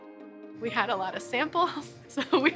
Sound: laughter

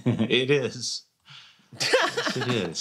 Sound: chuckles; laughs

